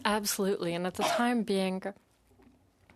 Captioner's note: speaking in French